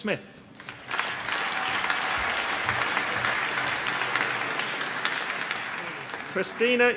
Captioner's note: applause